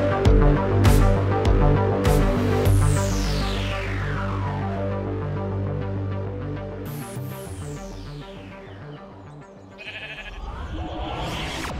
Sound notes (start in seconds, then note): 9.7 sheep Bleats